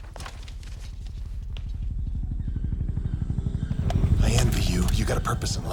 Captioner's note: helicopter flutters